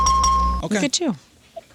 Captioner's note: bell ringing